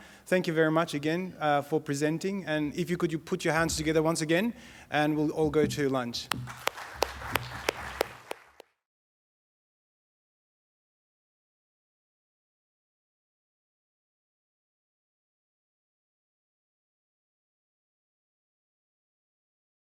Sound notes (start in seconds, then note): 6.2 audience clapping